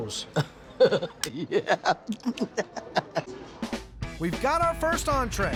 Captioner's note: chef laughs